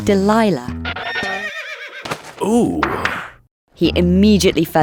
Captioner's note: horse whinnies